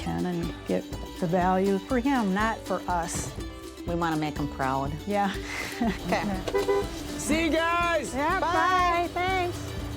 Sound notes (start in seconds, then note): 6.3 honks horn